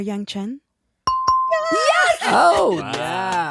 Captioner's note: bell dings